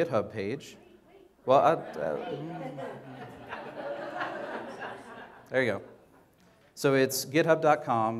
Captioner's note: audience laughter